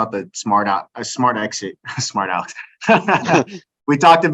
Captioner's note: laughs